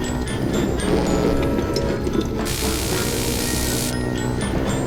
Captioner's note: liquids burbling